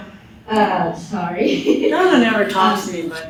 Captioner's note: laughs